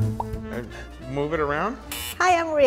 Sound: bubbles popping; buzzer buzzes

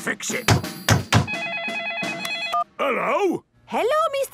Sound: phone ringing

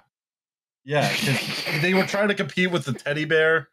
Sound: laughter

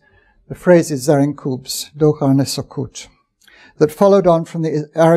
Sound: non-english speech

